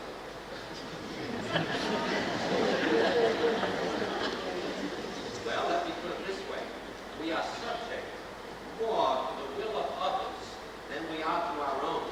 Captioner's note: laughter